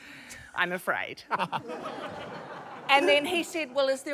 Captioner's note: laughs; laughter